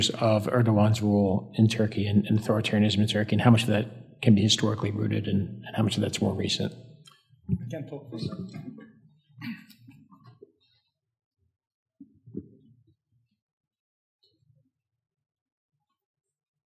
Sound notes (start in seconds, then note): 8.2 overlapping chattering